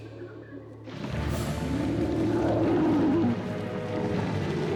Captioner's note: growls